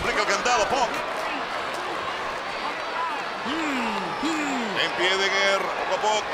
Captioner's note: applause